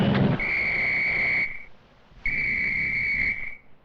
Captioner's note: dramatic music; engine rumbling; whistles blowing